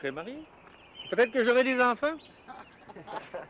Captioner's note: rires